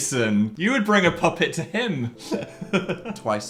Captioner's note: laughing